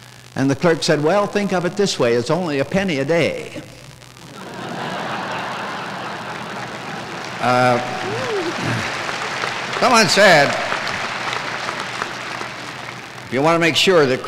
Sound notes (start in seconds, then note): 4.3 laughter; 7.5 applause